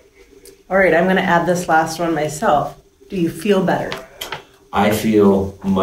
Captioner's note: female voice